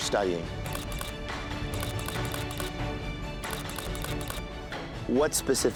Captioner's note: camera shutter clicking